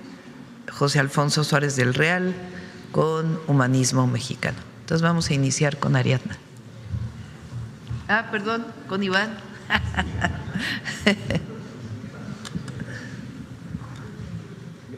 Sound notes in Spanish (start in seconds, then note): 9.6 risas